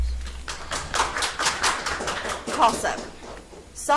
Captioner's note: audience applauds